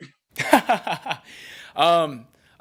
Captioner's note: laughing